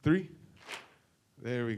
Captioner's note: clap